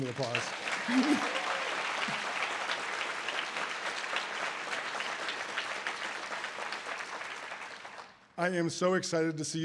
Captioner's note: audience applause